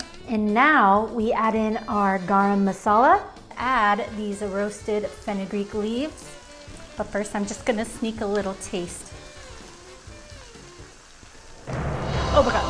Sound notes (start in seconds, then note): 6.5 mixture sizzling; 9.5 mixture sizzling